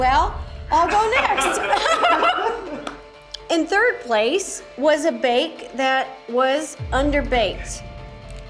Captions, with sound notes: - Well, that went well. I'll go next. (laughs) In third place was a bake that was underbaked.